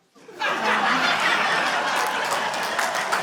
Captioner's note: laughter, applause